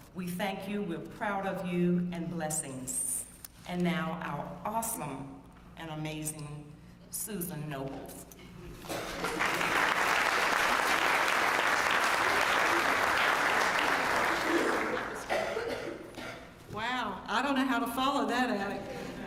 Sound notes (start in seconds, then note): 8.9 applause